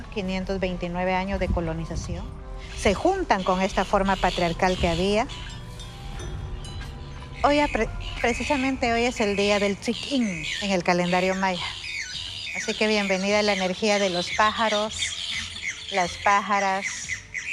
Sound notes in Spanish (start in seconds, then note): 5.8 Canto de pájaros